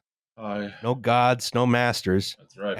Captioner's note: wearily